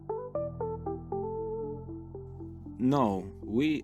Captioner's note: narrator over music